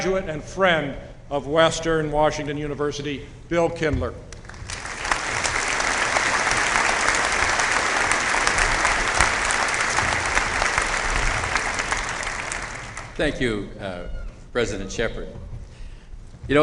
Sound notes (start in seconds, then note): 4.3 applause